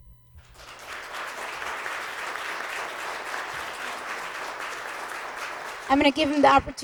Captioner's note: applause